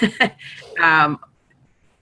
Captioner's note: chuckles